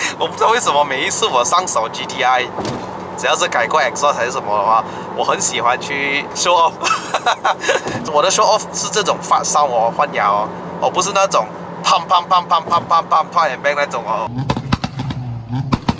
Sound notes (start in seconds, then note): 12.6 pop and bang